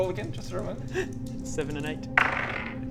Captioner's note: laughs